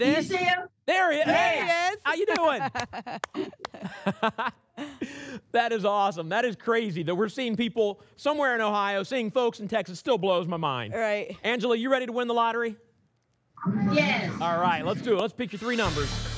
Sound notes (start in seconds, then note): 2.1 laugh